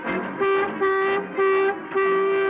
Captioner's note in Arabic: جو ينفخ بوق